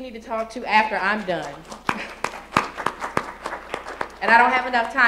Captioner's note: applause